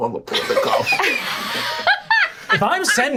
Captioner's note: laughing